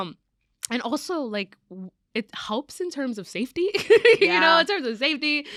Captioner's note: laughs